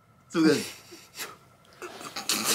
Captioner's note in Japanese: 笑い堪える